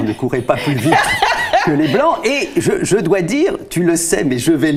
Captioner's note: laughters